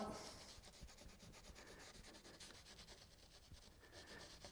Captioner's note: rag rubs